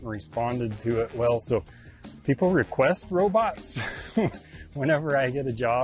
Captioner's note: chuckles